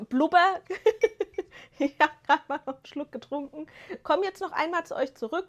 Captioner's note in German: gelächter